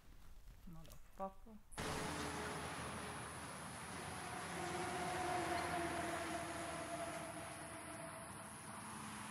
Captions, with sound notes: Motherfucker. (traffic rumbling)